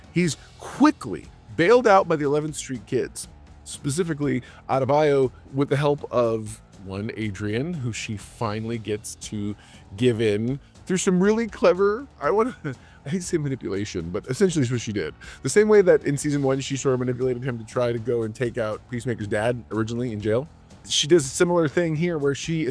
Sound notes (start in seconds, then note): 12.2 laughs